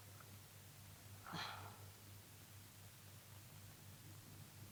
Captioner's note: Cleo sighs